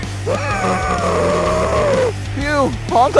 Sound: wheezes

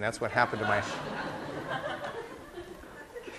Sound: class laughing

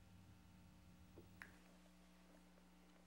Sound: snaps fingers quietly

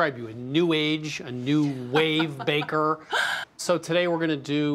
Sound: laughs

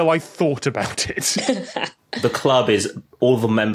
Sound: laughs

